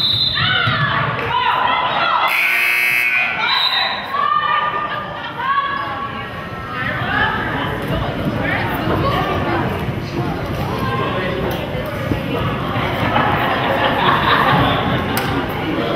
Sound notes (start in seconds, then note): 0.1 whistle blows; 2.2 buzzer goes off; 4.4 whistle blows